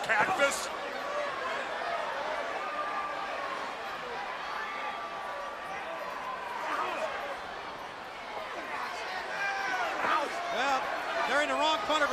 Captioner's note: crowd chatter